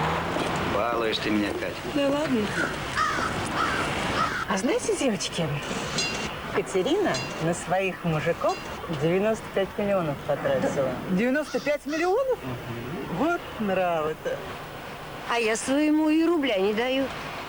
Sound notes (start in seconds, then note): 2.4 crow croaks